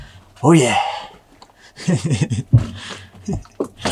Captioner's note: chuckles